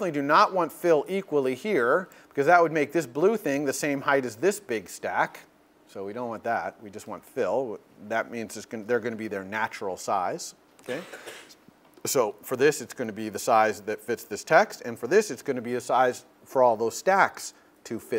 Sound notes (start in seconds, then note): 10.8 cough